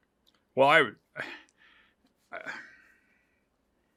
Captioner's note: sighs